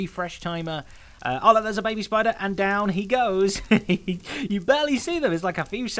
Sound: chuckles

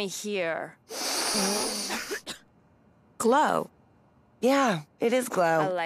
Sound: whiffing; coughing

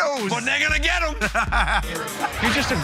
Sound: laughing

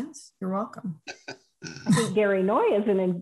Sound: laughter

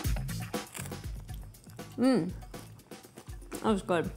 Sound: crunch

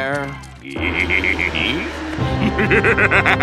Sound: evil laugh

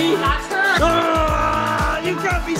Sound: yelling

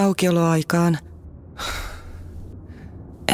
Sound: sigh

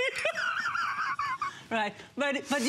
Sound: laughter

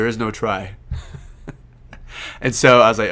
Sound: laughing

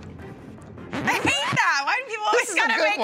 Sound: laughing

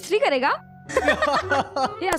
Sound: laughing

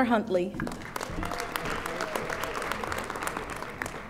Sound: audience applauding

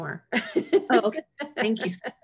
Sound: laughs

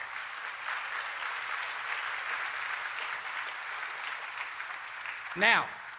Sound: applause

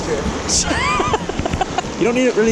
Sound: laughing

